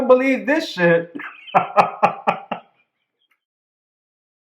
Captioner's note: laughter